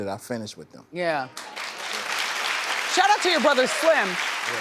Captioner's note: audience applause